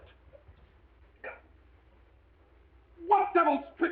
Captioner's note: Mr. Balding grunting